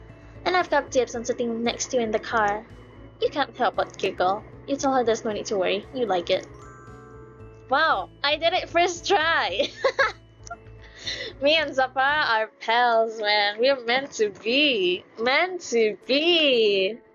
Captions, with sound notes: Wow, I did it first try *laughs* Me and Zapara are pals, man We're meant to be Meant to be